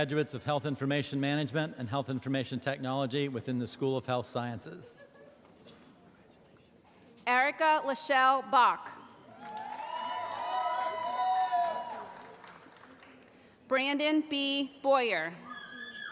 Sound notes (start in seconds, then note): 9.3 cheering; 15.8 shouting